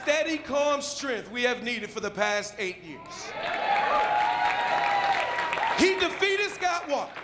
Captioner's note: applause